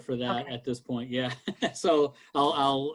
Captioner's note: chuckles